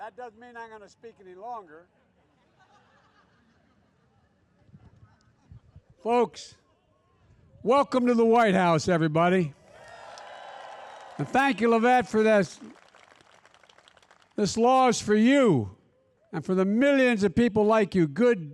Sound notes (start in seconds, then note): 2.0 laughter; 9.8 applause